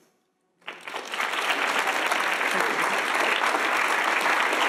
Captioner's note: audience applauding